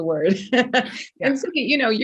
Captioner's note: laughs